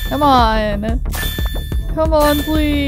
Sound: upbeat music; magical warbling

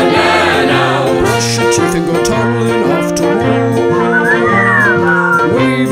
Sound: whistling

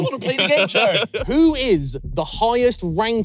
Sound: laughing

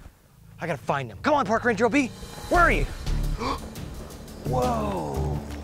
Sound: gasps

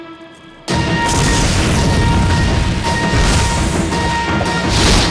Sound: none

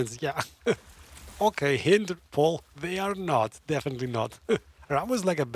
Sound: laughs

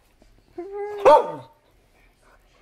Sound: barks

